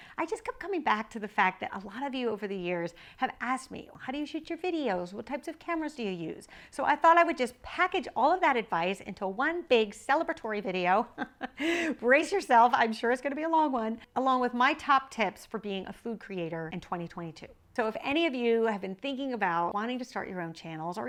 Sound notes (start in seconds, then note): 11.1 laughs